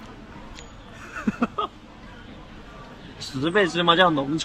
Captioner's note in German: laugh